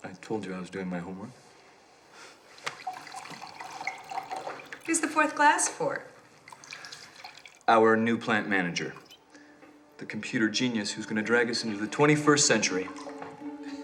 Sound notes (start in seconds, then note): 2.4 wine pouring; 13.6 lighthearted music